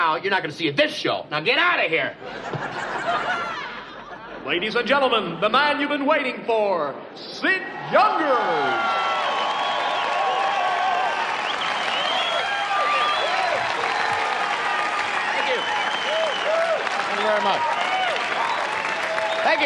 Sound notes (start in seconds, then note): 2.2 laughing; 9.3 cheering